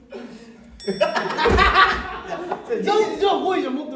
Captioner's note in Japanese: チーーーン